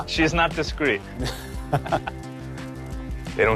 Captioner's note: chuckles